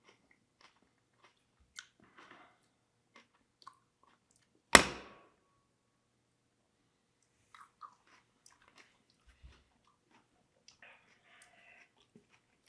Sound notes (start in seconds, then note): 4.7 lid thuds